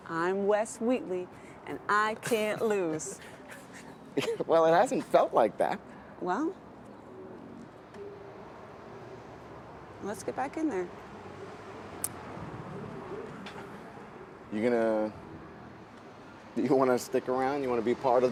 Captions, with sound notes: "I'm Wes Wheatley and I can't lose". (Wes chuckling) - Well, it hasn't felt like that. - Well... Let's get back in there. - You're gonna... Do you wanna stick around?